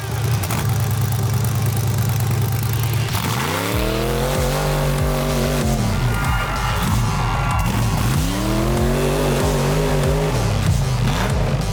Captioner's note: engine revving; upbeat music